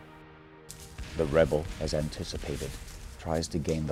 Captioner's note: voiceover